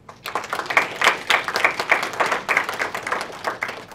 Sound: applause

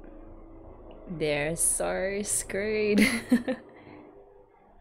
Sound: laughs

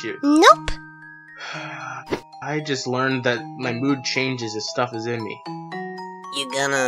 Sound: sigh

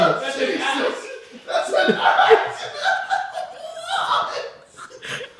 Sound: laughing

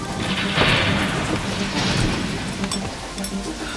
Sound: thunder

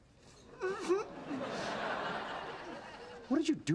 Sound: stifled sob

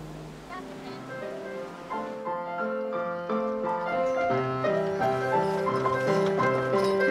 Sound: lively piano music; Jo chattering

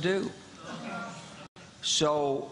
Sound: crowd boos

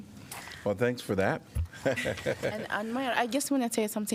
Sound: laughter

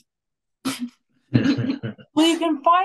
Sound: laughing

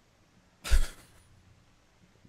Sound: chuckles

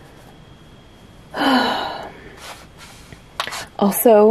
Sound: frustrated sigh

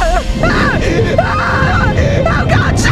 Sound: awful screaming

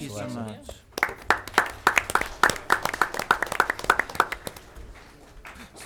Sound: applause

